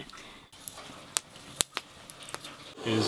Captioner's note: fire crackling